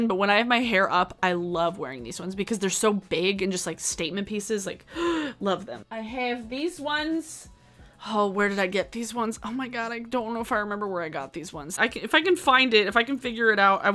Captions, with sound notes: But when I have my hair up, I love wearing these ones because they're so big and just like statement pieces. Like, (gasps) love them. I have these ones. Oh, where did I get these ones? Oh, my God. I don't know if I remember where I got these ones. If I can find it, if I can figure it out,